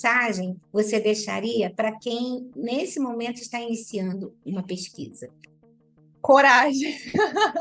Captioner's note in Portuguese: Risadas